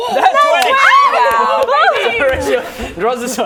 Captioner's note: cheering